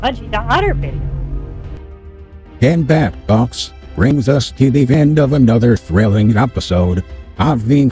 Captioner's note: voiceover